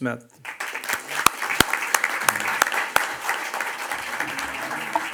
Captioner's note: audience applauds